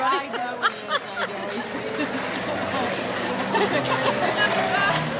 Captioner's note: woman speaks off mic